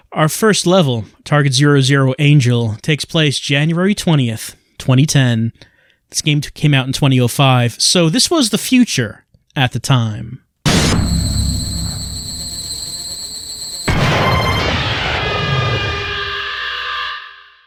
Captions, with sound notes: Our first level, Target 00 Angel, takes place January 20th, 2010. This game came out in 2005, so this was the future at the time. [laser sight humming] [gunshot] [electronic screaming]